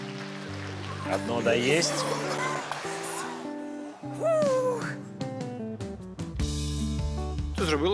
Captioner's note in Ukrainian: оплески